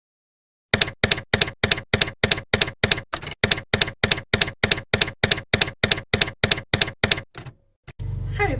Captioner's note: typewriter keys clacking